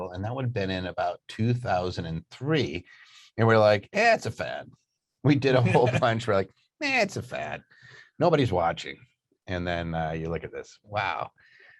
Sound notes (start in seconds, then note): 5.5 laughing